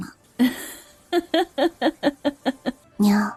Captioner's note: laughs heartily